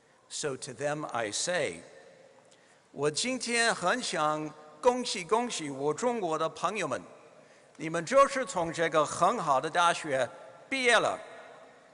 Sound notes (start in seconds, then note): 2.6 speaking mandarin